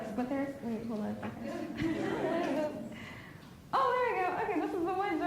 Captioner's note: laughs